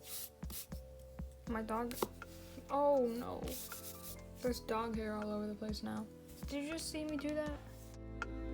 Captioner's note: wiping